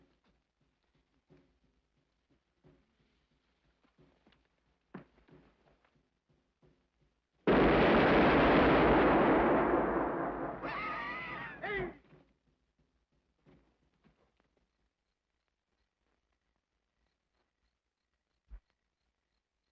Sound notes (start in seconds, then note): 7.4 dynamite booms; 11.1 Dynamite Dawson laughs; 16.8 crickets chirrup